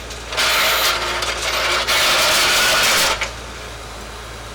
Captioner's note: chains rattling